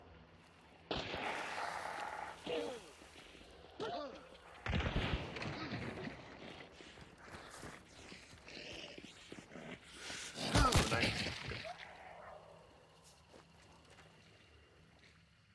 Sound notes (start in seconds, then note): 0.9 gunshot; 4.6 explosion